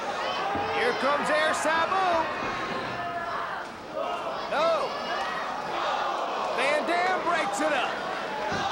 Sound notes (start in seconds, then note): 5.6 spectators exclaiming